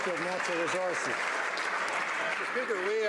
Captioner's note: some Applause